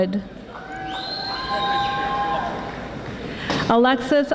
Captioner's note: audience whistling and yelling